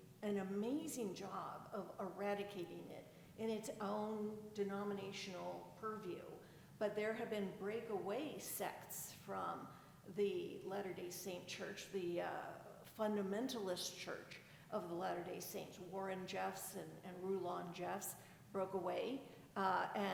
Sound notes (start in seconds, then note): none